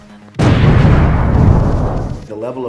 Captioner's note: explosion